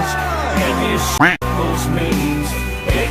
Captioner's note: quack